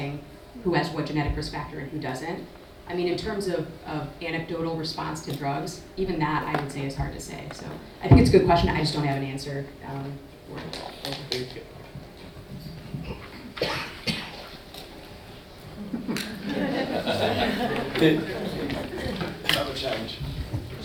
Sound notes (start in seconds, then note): 15.7 audience laughs